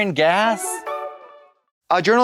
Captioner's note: bright chime